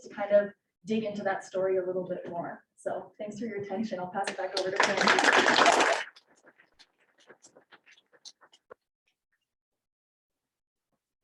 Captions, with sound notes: to kind of dig into that story a little bit more. So thanks for your attention. I'll pass it back over to Quinn. (audience clapping)